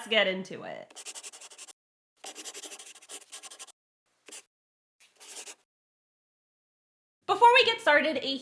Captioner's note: the sound of a pen scratching. LOGO